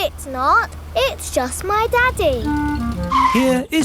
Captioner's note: vehicle approaching